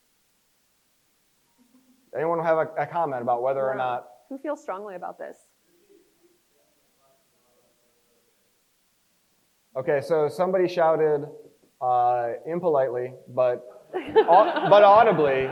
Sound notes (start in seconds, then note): 6.6 crowd member speaks softly; 13.9 crowd laughs